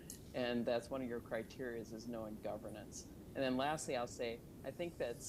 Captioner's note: none